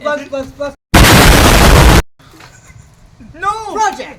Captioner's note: explosion